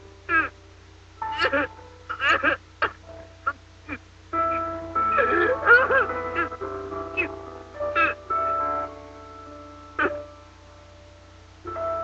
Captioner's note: cry